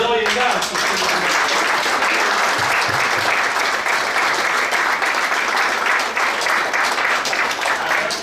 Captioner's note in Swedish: Applåder